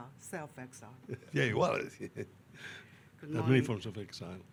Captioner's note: chuckles